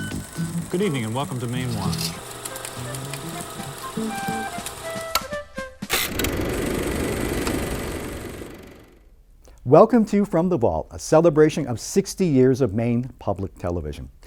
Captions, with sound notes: - Good evening and welcome to Mainewatch (upbeat music) (projector clicking) Welcome to From the Vault, A celebration of 60 years of Maine Public Television.